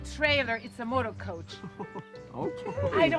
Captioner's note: laughs